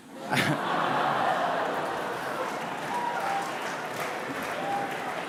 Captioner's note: laughter